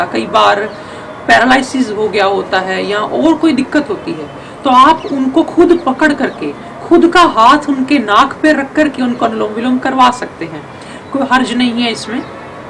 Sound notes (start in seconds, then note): 8.5 alternate nostril breathing